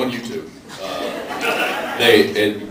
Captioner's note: laughs